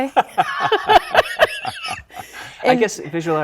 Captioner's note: both laughing